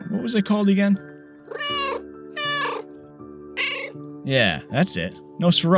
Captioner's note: meow